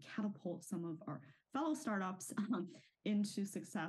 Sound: chuckles

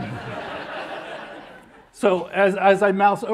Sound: laughter

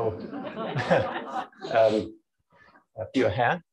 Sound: laughter

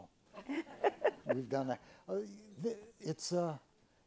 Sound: chuckles

